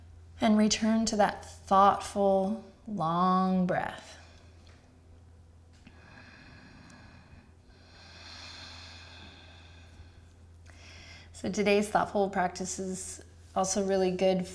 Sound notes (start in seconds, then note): 5.8 inhaling and exhaling